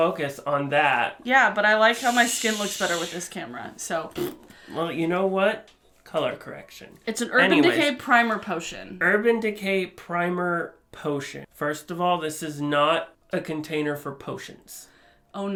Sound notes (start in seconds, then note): 1.9 shushing; 3.8 Bronx cheer